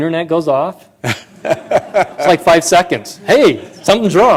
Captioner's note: laughter